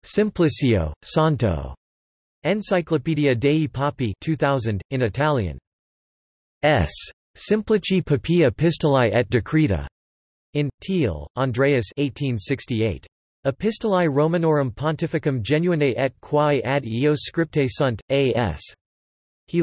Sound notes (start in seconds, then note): 4.7 in Italian